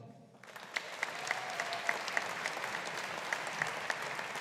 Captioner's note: audience applauding